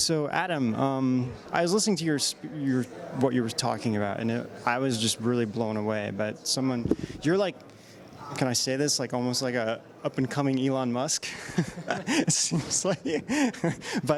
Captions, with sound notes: So Adam, I was listening to what you were talking about, and I was just really blown away, but someone, you're like, can I say this? Almost like a up-and-coming Elon Musk (laughs).